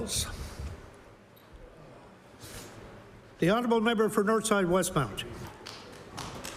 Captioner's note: applause